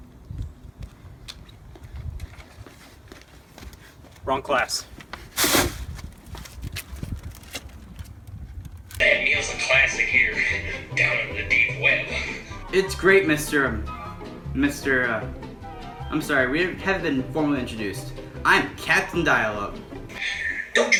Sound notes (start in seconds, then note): 1.2 footsteps; 5.1 plastic bag rustling